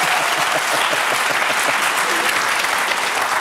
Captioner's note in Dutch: applaus